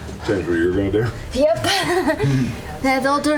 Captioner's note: laughs